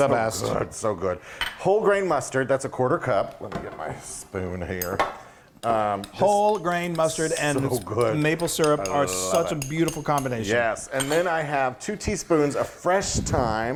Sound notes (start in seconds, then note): 6.0 spoon continues scraping; 6.1 spoon scraping bowl; 10.7 spoon clashing on bowl